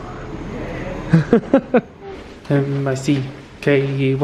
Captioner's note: laughs